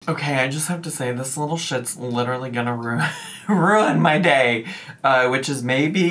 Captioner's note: chuckles